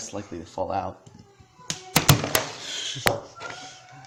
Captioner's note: plug hitting floor